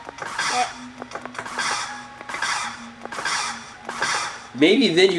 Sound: footsteps sliding to an abrupt halt

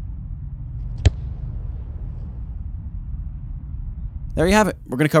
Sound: ball being kicked

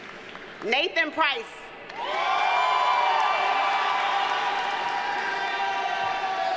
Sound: audience cheers and applauds

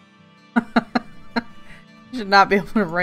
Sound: laughs

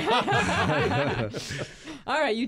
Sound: laughing

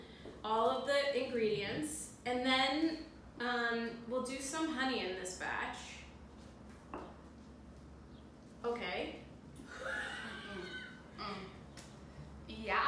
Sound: laugh

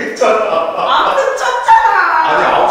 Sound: upset

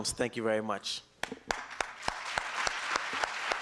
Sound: applause

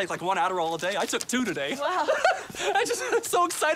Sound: laughs

